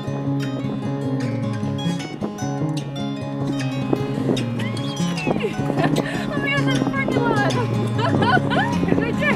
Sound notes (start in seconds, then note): 4.0 squeels